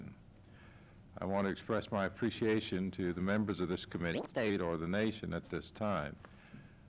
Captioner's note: camera noise